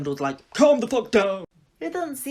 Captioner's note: As Dumbledore